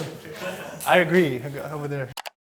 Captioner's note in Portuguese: risos